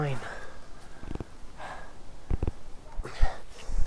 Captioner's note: stoke panting